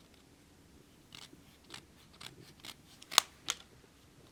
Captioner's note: scissors cutting